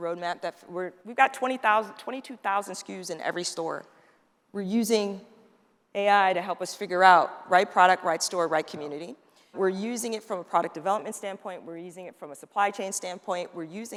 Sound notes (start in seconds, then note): none